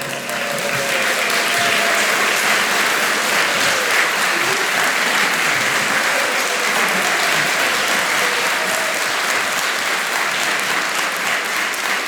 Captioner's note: applause